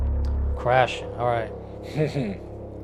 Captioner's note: drone sfx; chuckles